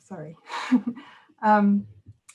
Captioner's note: chuckles